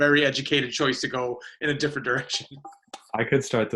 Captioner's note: laughs